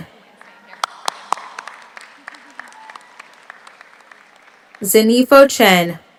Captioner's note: audience cheers; audience applauds